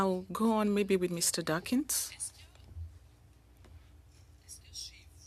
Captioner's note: speaking French